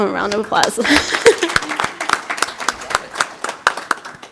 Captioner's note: applause